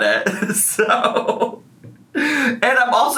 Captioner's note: laughs